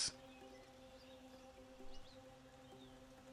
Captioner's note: birds chirping